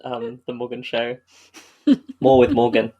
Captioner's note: laughs; laughs